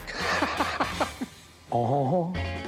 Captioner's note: laughs; imitates elvis